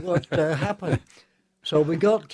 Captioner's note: laughter